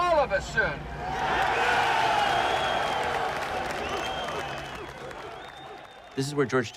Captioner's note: crowd cheering